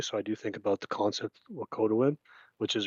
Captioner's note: speaks in Indigenous language